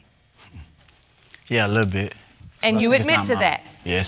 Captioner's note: scoffs